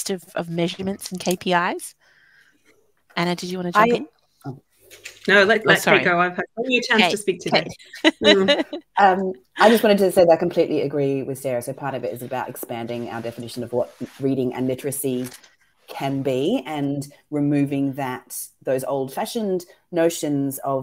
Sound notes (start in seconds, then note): 6.9 laughing